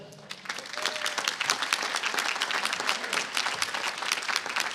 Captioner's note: applause